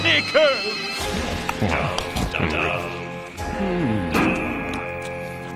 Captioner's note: munching